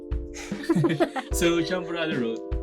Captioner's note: laughs